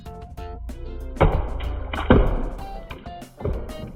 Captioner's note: water splashes